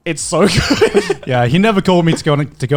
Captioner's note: laughs